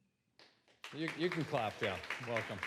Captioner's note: applause